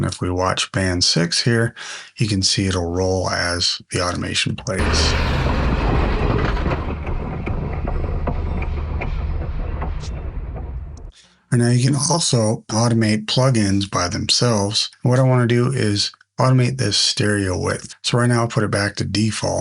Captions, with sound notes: And if we watch band 6 here, you can see it'll roll as the automation plays. (drums rolling) (Train Passing) And now you can also automate plugins by themselves. What I want to do is automate this stereo width. So right now I'll put it back to default.